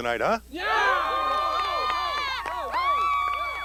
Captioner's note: cheering